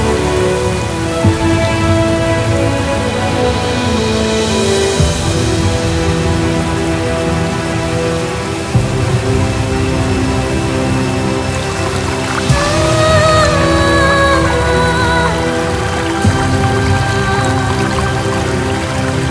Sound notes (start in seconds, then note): 6.3 rain sounds